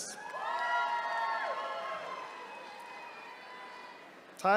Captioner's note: attendees cheering